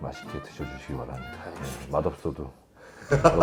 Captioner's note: aggressive tone